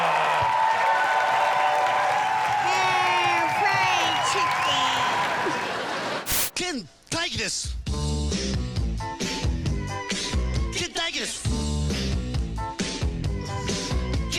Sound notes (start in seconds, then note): 0.0 crowd cheering; 6.2 static; 7.3 foreign accent